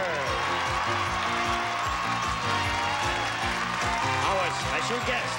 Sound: audience applauding

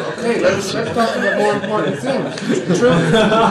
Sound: laughter

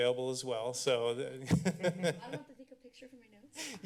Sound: laughs

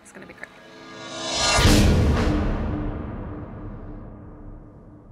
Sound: air whooshing

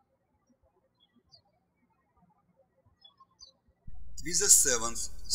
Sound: birds chirping

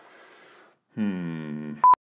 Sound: beep

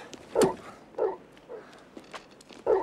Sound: dog barks

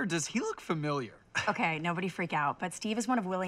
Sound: chuckles

